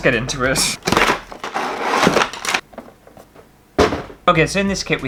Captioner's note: destroying Box Sounds